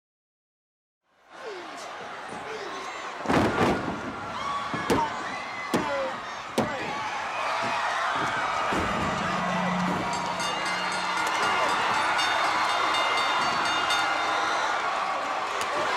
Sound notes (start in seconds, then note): 0.1 crowd cheering; 8.8 bell ringing; 10.4 crowd cheering